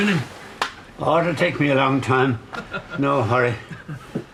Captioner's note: they laugh